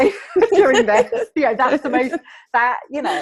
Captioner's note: laughing